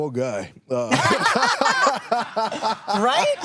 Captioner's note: all laughing